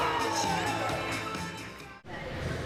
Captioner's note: crowd cheering